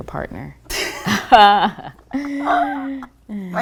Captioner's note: laughter